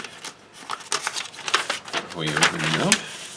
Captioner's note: paper rustling